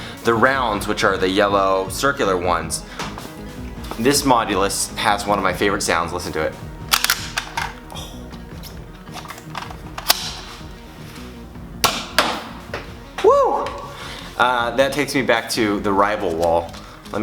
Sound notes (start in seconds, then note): 6.9 Nerf gun loading; 11.8 Nerf firing and hitting wall